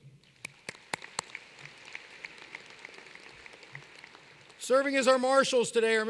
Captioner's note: applause